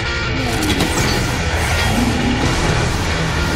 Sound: roars; hisses

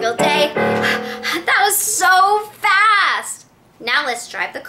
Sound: gasps

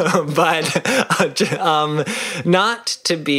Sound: laughing

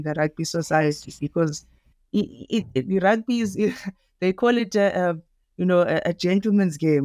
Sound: chuckles

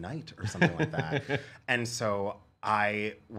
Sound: laughing

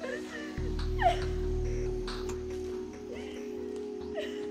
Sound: crying

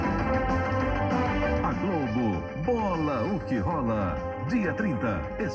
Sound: male announcer speaking Portuguese

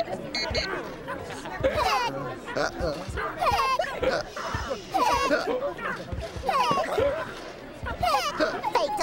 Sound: beeping; hiccuping

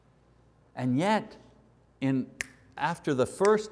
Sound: snaps fingers

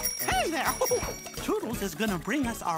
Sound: bell ringing; chuckling

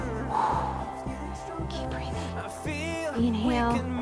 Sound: whispers

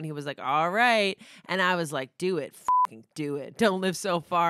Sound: beep

